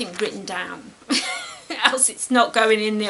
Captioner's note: laughs